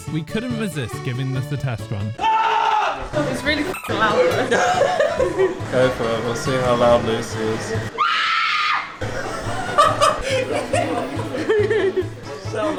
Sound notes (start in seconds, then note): 2.2 screams; 7.9 screams; 9.0 laughter